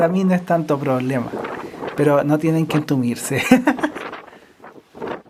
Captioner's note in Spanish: risas